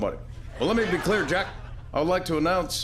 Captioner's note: laughter